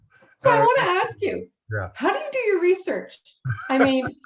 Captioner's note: Harlan laughs